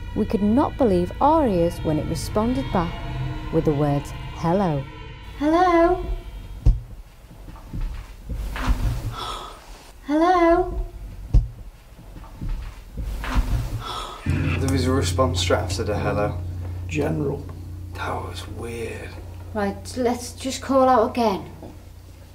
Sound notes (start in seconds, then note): 8.8 ghostly Voice; 13.1 ghostly Voice